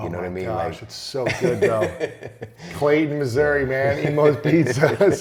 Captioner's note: laughs